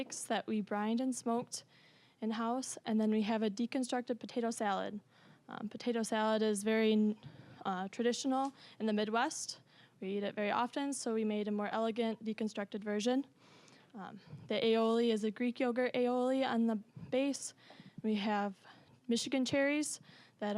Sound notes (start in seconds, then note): none